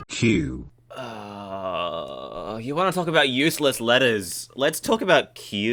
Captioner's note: groan